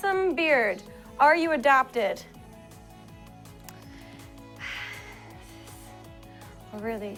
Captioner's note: sighs